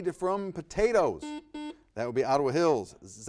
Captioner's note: buzzer beeps